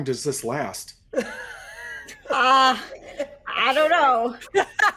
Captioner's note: person laughing